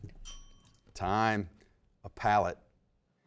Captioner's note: bell dings